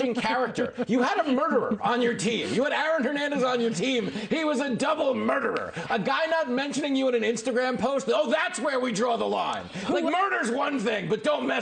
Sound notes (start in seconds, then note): 3.5 laughter